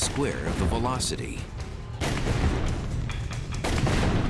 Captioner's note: gun fires